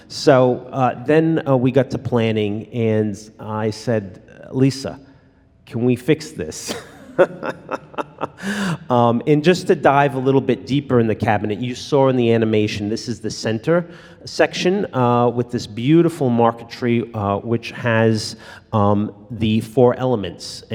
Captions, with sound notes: So then we got to planning and I said, Lisa, can we fix this? (laughs) And just to dive a little bit deeper in the cabinet, you saw in the animation, this is the center section with this beautiful marquetry, which has the four elements,